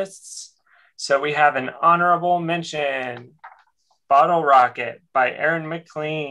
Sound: none

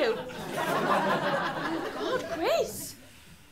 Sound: laughter

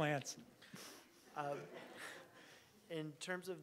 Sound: audience laughing

